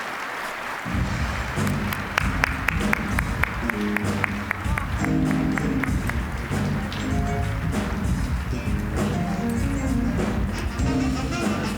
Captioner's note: applause; smooth jazz music